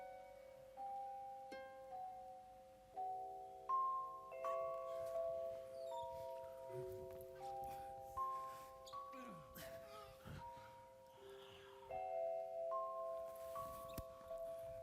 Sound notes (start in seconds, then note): 7.9 group panting